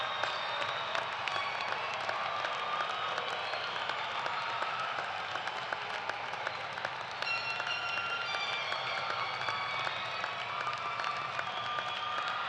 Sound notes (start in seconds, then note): 0.0 cheers and applause